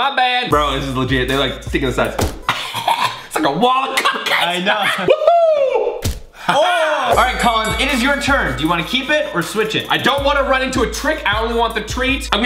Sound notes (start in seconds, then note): 2.4 coughing